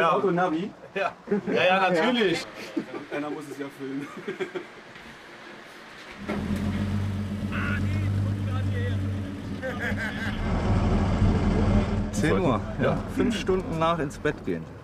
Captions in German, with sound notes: Hat dein Auto ein Navi? - Ja, natürlich. Einer muss es ja filmen. (Motorbrummen) Martin, komm grad hierher! (Lachen) Zehn Uhr, fünf Stunden nach ins Bett gehen.